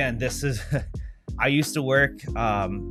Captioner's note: chuckling